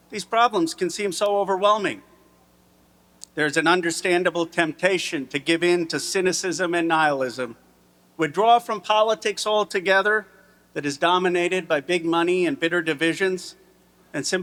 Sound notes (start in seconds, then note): none